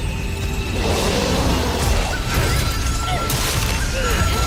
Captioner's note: roaring